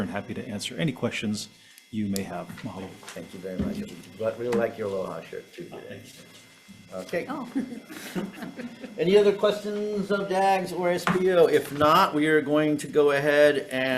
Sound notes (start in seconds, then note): 7.5 senators laughing